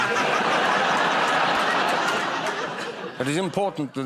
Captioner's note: laughter